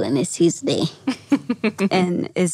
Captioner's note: laughs